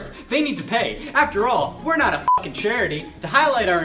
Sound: beep

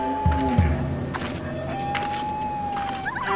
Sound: footsteps crunching

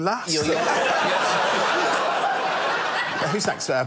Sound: laughter

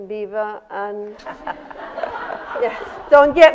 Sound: laughter

